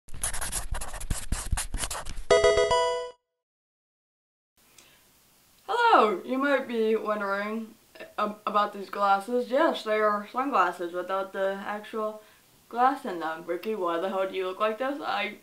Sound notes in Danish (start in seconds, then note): 0.2 markør skriver; 2.2 Pokemon spil lyd